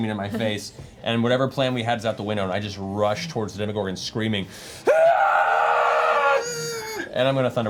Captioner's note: screams